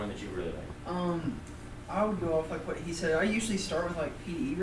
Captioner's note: voiceover